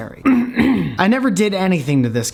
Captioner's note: clears throat